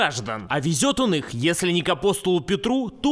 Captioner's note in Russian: none